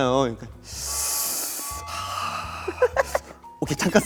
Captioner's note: deep breath